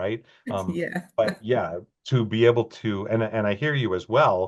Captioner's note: chuckles